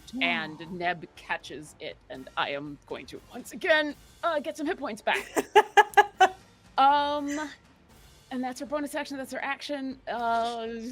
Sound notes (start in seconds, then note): 5.1 laughing